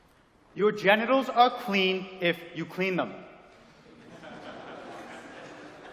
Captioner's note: nervous laughter